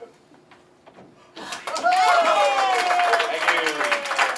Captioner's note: scientists applaud